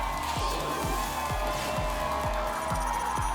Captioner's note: whoosh; applause and cheering